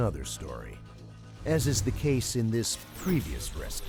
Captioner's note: voiceover